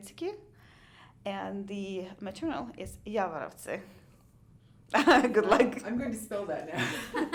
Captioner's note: laughs